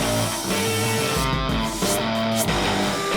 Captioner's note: heavy rock music; sawing